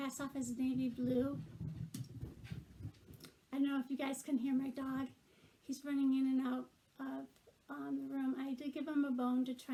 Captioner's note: animal running